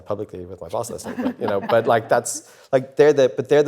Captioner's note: panellists laugh